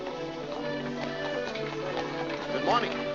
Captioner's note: hooves trotting